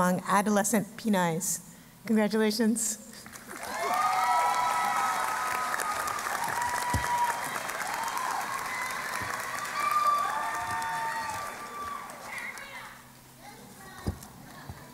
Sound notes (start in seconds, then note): 3.3 applause and Cheering